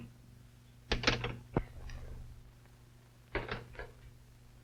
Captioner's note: phone clanking